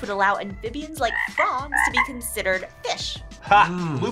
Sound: frog croaking

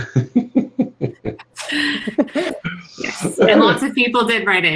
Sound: all laughing

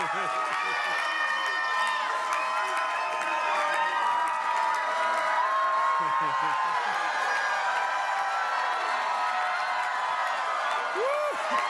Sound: cheering

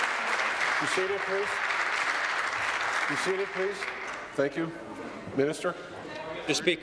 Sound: applause

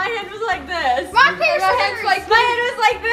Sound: both mumbling

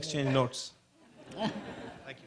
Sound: chuckles

